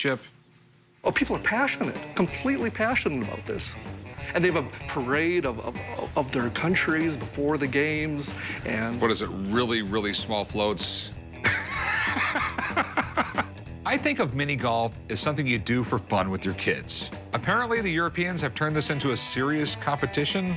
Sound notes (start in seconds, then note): 11.4 guffawing